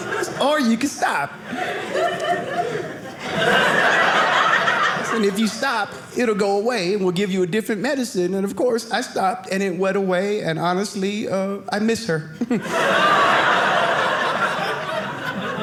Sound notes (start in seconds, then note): 1.1 audience laughing; 12.4 audience laughing